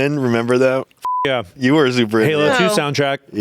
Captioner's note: beep